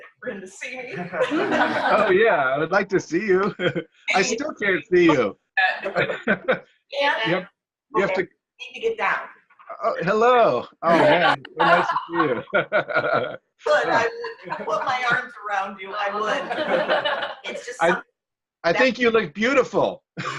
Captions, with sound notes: I'm afraid for him to see me. - Oh yeah, I would like to see you. I still can't see you. (laughs) - I need to get down. - Oh, hello. Oh man. (laughs) - If I could put my arms around you I would. (laughter) - I think you look beautiful.